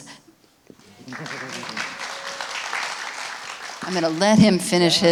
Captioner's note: audience applauding